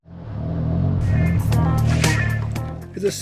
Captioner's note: sound of tuk-tuk engine